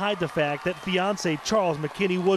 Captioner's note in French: applause